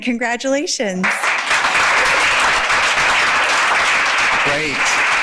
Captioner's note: audience applauding